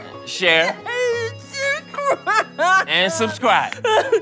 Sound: sobbing; sobbing and speaking indistinctly

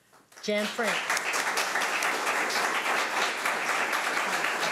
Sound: audience applauding

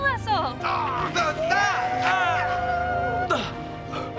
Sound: screaming

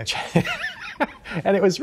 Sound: laughing

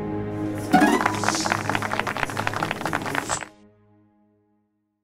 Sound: applause

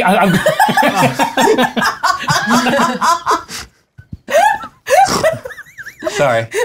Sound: laughter

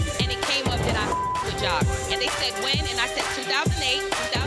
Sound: beep

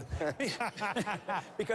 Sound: laughter

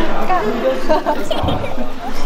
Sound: giggling

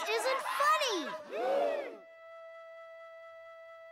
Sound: gasps

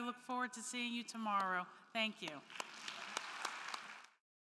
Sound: crowd clapping

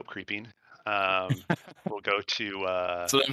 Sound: laughter

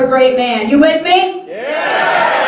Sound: cheering

